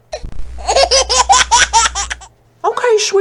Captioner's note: laughs